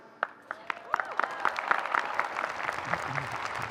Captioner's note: applause